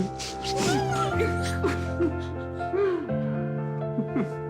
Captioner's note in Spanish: Exclamaciones